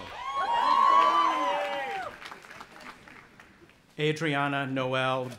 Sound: audience applauding and cheering

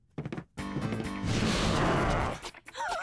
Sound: footsteps; growling

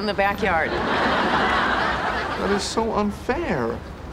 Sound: background laughter

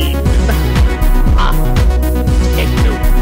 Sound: laughs

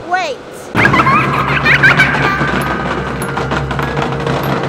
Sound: child giggling

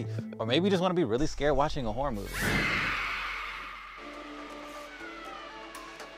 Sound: ghost screams

